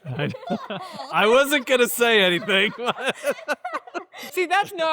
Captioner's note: laughs